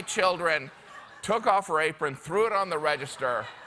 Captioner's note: laughter